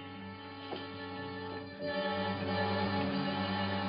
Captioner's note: water running